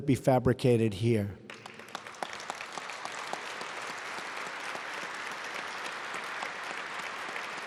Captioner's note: applause